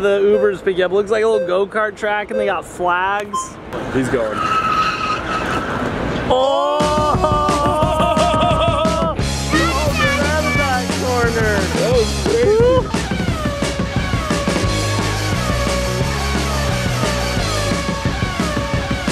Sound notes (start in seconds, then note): 3.6 tires screeches; 6.6 everyone exclaims; 13.1 cars zooming; 13.1 upbeat rock music